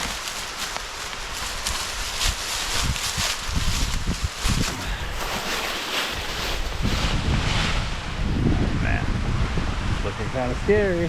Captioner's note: water splashing